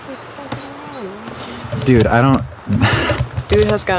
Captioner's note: sighs